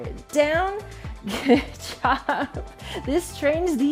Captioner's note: laughs